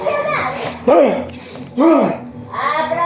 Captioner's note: huffs; grunts